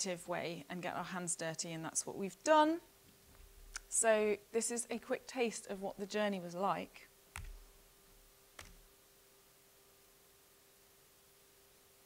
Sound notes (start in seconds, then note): 8.6 typing